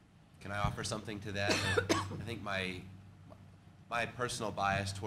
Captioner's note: cough